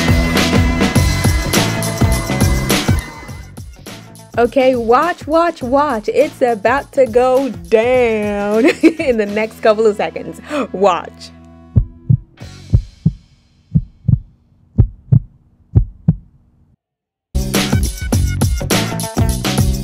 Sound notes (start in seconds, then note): 8.6 giggles; 11.7 thundering heartbeat